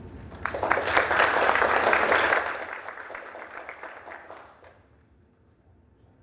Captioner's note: applause